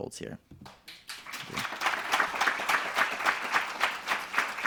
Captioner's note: audience applauding